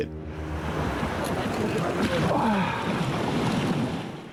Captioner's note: waves crashing